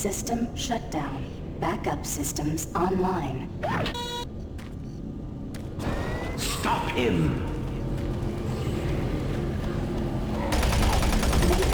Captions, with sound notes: System shutdown. Backup systems online. (beeping) Stop him. (gun firing)